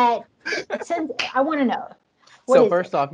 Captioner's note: laughs